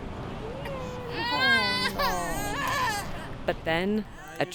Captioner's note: baby crying